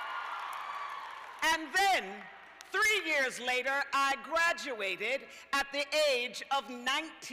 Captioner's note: cheers and applause